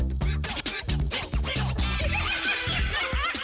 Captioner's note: laughing